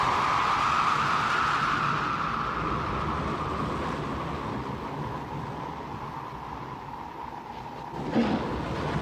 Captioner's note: wind blows hard; Willie grunts